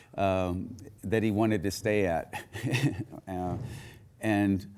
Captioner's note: chuckles